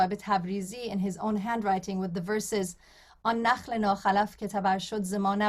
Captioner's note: non-english speech